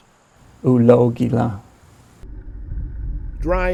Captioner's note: speaking cherokee